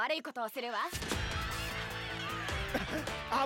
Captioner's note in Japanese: チャンプリングたちの声